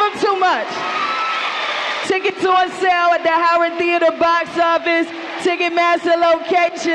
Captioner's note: applause